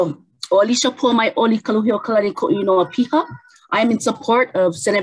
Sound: speaks in native language

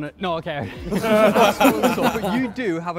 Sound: laughter

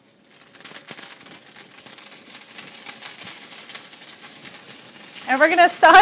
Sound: sizzling Sound

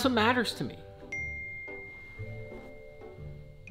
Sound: phone dings

